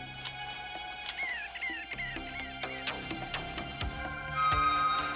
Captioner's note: birds chirping